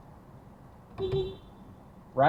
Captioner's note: beepbeep